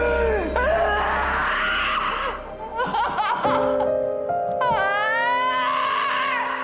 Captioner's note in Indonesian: tertawa